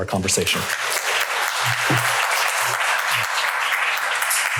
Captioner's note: applause